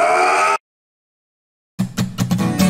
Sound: perfectly cut scream

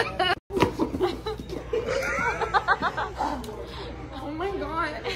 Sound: laughter

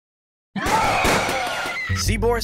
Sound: Rasputin howling and gunshots

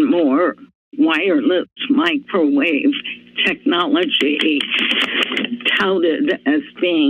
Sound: paper rustling

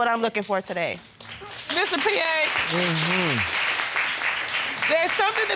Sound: audience applauding

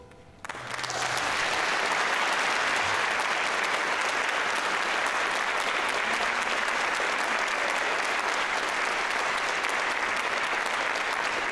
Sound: applause

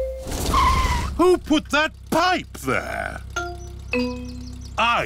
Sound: tires screech

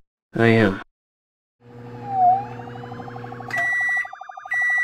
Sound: police sirens; beeping

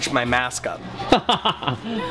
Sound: laughter

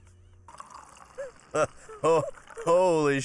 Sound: chuckling

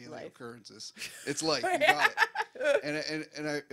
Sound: laughs

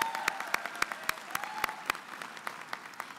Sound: applause

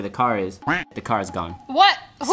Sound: duck quacking

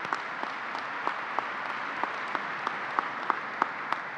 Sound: applause

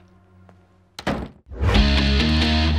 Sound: door slams

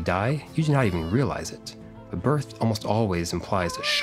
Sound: baby crying

